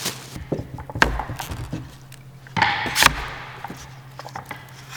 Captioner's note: clanking